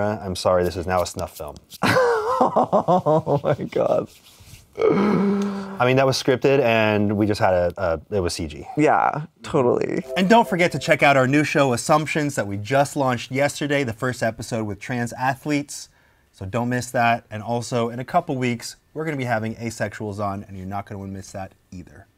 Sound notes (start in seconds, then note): 1.8 guffaws; 4.7 inhales